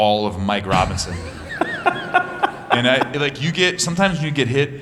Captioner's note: laughter